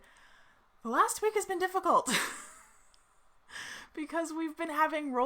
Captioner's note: laughs